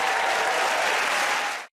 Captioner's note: cheers and applause